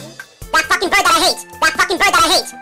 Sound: higher pitched

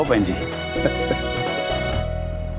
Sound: laughing

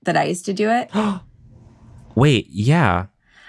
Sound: gasps

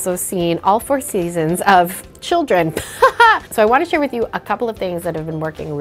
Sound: haha

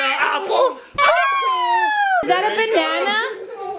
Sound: child laughing; person exclaiming

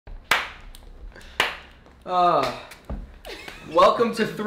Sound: hands clapping

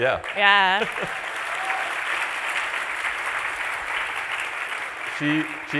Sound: applause

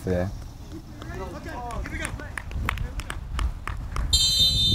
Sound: players talking and yelling; whistle blows

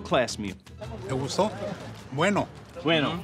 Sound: speaking Spanish

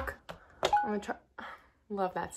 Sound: Dyson dings

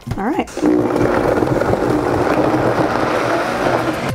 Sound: blender grinding

